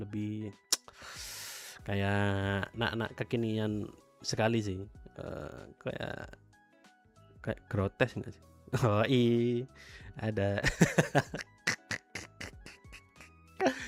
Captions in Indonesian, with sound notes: Lebih kayak nak-nak kekinian sekali sih. Ee kayak kayak Grotes enggak sih? Hoi. Ada [tertawa]